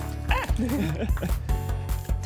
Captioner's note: both laugh